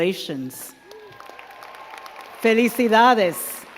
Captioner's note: crowd cheering and clapping